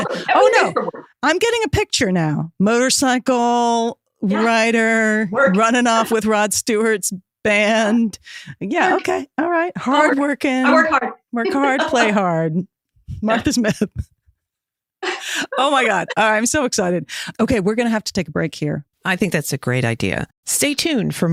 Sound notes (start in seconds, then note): 10.6 chuckling